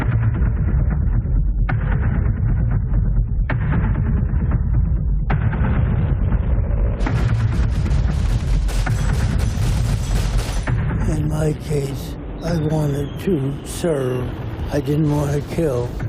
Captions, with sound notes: [tense music playing] [gun firing] In my case, I wanted to serve. I didn't want to kill.